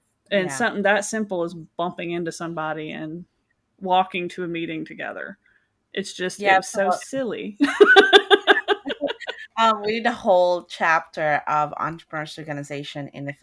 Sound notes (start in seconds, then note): 7.6 laughing